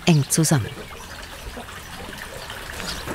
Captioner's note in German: Plätschern